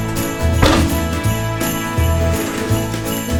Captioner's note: banging